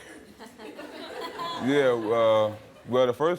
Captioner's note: audience laughing